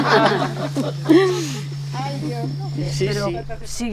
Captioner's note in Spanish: risas